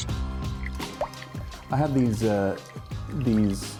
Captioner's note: water bubbling